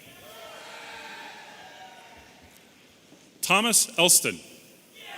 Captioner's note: audience cheering